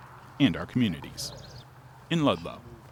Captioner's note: birds chirping